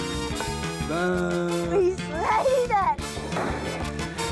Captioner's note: groans